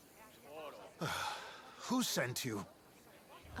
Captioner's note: sigh